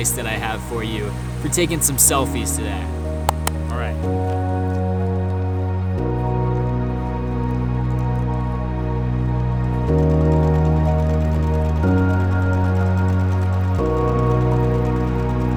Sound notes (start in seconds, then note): 3.3 claps; 4.3 gentle music